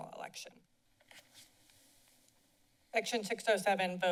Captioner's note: silence